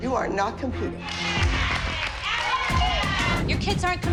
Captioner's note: others cheering